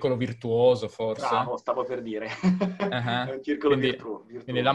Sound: laughs

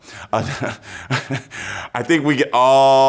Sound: laughs

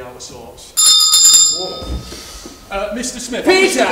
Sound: bell Rings

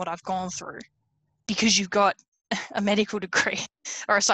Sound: laughs

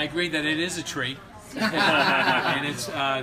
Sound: boisterous laughter

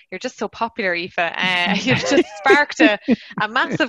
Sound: laughter

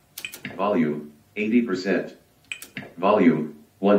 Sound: voiceover

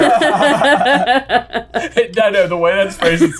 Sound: laughter

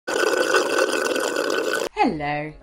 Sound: slurping

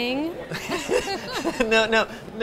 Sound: laughs

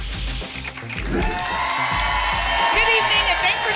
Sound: applause and cheering

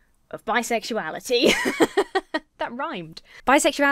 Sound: laughs

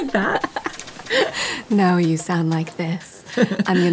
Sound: imitating maggie gyllenhaal

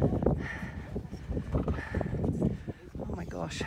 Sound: heavy breathing

